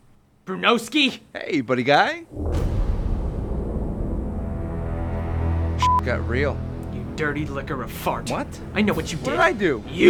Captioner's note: beep